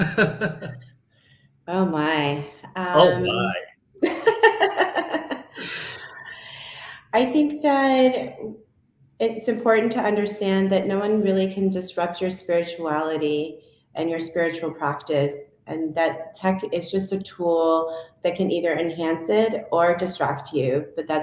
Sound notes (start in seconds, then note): 0.0 laughs; 4.0 laughs